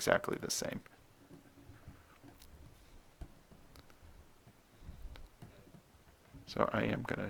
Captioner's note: writing on Paper